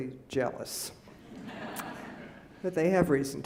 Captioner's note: laughing